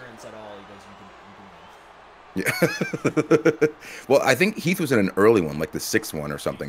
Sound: laugh

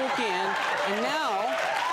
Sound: audience applauding

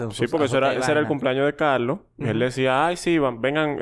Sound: none

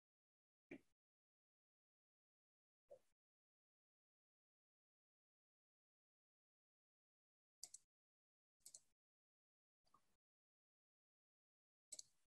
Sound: silence

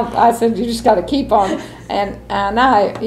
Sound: laughs

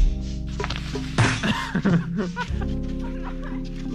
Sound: laughing

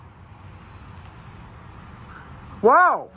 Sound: blows air

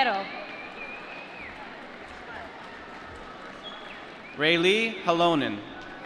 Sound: applause

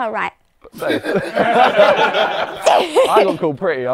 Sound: people laughing

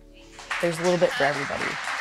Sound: audience applause

